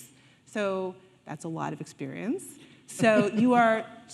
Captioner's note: Sonia laughing